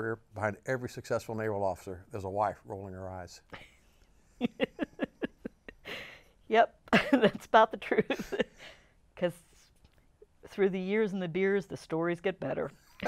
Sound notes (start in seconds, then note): 4.4 laughs